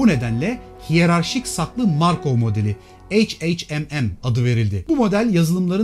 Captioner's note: hhmm